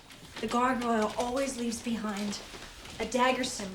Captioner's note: none